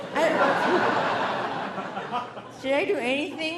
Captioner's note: audience laughing